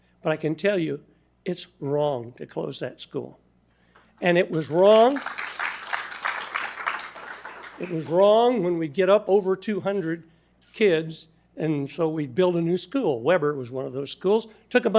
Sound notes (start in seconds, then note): 4.5 attendees applauding